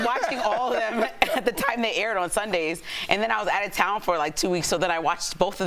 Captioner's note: laughter